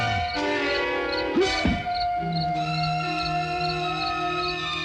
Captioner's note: grunting